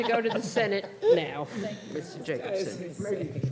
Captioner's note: laughter